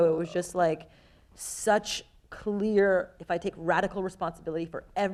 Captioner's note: none